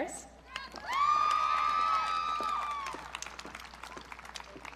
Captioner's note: audience cheering